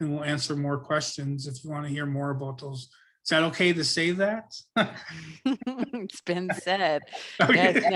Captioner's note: both laugh; laughs